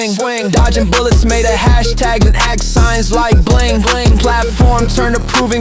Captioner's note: bling